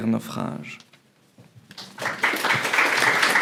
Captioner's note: applause